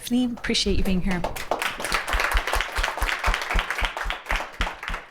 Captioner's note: applause